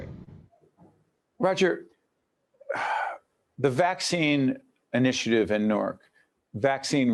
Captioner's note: sigh